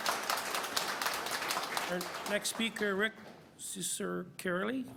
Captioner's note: applause